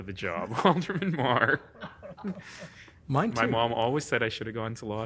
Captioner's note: laughing